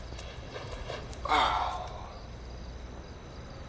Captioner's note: Carlos sighing